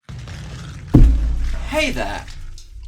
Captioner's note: crashing sounds